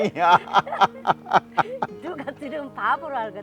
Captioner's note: both laughing